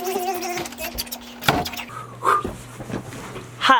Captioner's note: buzzing